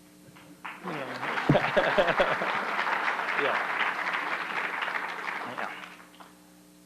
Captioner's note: applause